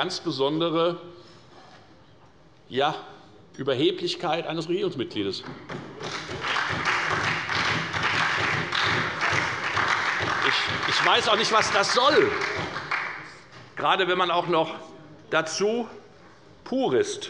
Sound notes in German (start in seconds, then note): 5.5 Beifall bei der FDP, der SPD und der LINKEN